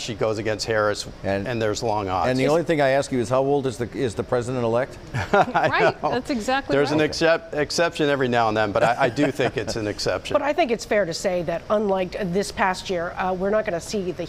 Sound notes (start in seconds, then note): 8.8 laughter